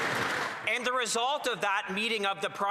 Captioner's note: some Applause